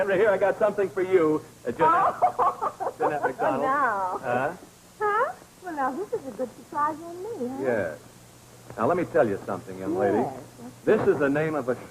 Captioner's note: laughing